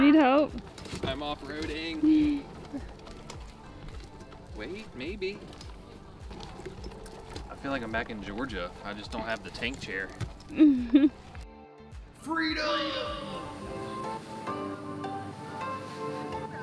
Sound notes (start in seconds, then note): 10.5 giggles; 13.3 lighthearted music